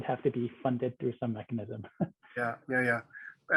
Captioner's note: laughs